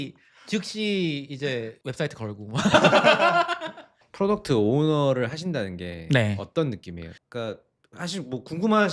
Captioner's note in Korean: 웃음